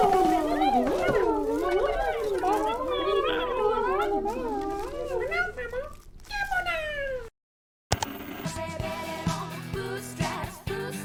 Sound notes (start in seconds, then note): 0.0 Goobalins goobaling angrily at Dex; 7.9 static; 7.9 ka-chunk